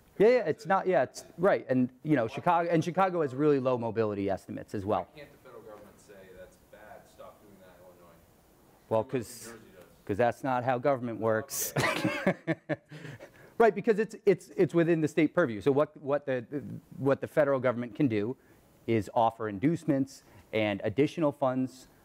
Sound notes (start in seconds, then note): 5.5 voiceover; 11.6 laughs